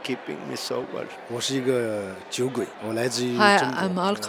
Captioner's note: speaking Mandarin